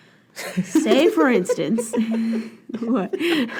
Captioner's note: laughing